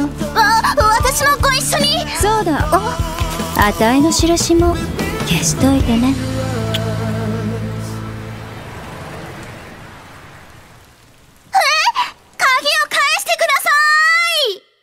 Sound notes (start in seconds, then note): 6.6 tongue click